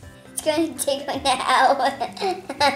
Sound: laughs; laughter

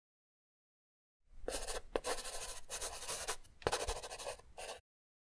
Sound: pen scratching

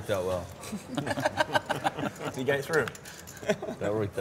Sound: laughing

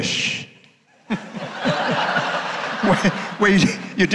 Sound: audience laughing

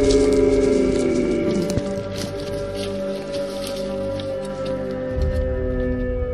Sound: howling; howling fades away

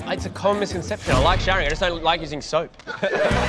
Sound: laughter

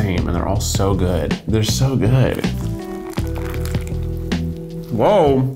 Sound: burger crunching

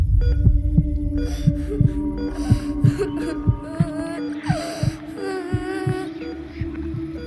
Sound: baby Girl Crying

